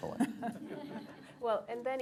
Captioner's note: laughter